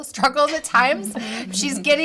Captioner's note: all laughing